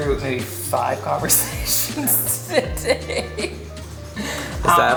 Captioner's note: laughing